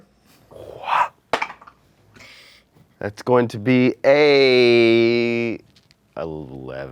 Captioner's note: dice roll